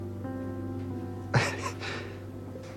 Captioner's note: Max laughs sadly